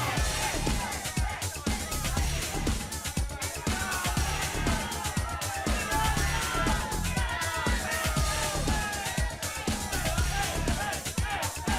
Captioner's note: crowd cheering